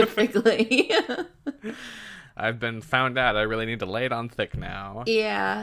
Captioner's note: laughs